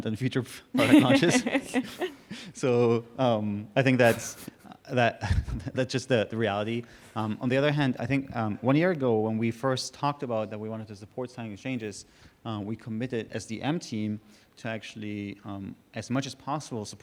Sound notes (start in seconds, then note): 0.7 laughing